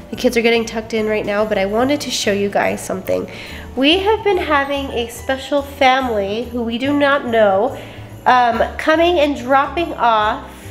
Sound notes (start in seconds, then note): none